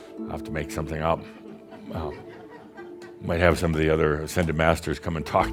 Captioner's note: a few chuckles